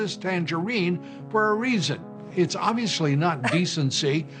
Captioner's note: laughs